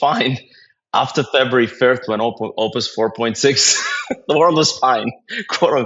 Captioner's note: laugh